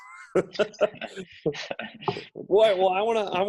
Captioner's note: laughs